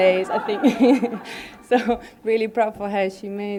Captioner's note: laughter